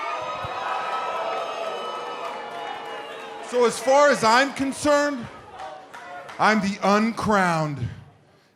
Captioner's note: cheers and boos